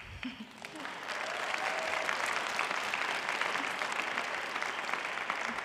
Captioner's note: applause